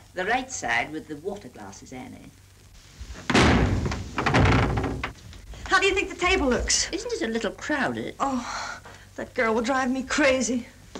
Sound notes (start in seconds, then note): 3.2 door bangs